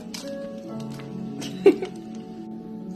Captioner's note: giggles